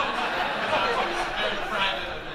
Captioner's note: audience laughing